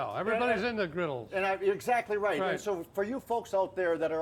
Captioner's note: none